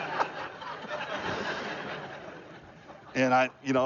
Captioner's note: laughter